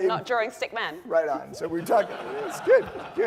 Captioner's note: laugh